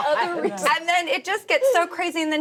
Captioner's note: laughing